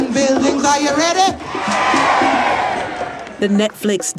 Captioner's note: crowd cheering